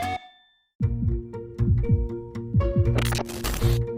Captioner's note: heart races